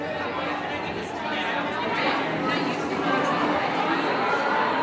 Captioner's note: people chatting